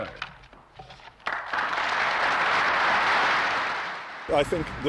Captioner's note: applause